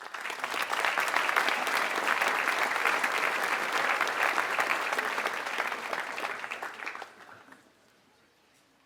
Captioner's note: applause